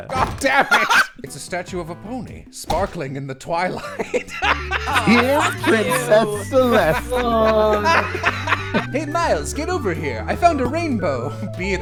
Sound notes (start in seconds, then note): 3.7 laughter